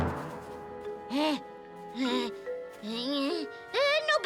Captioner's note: Milo grumbling